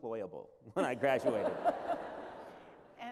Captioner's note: laughter